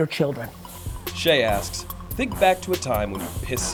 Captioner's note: voiceover